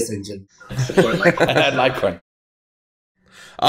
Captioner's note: chuckles